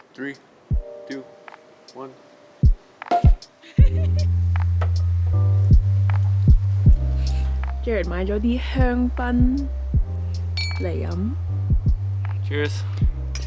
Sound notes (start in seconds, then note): 3.1 pop